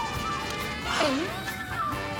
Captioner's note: sproing; boing